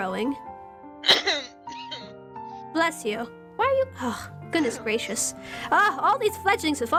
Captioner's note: LEE coughs